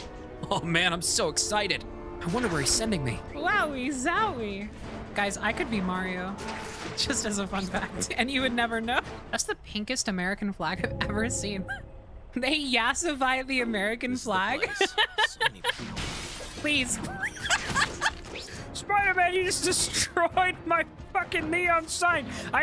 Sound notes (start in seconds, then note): 7.3 laughing; 14.6 laughing; 15.8 glass shatters; 17.9 laughing